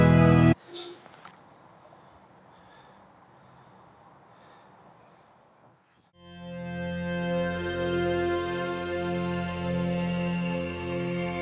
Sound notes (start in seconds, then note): 2.4 Andrew gasps; 6.2 soft bright music